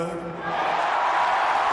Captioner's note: chants